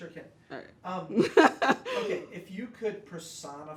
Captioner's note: laughs